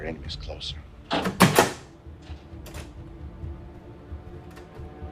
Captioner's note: door opening; suspenseful music